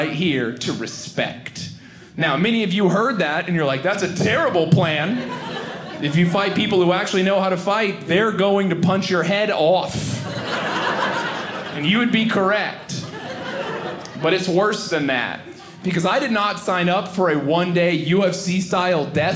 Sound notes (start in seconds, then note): 10.0 audience laughing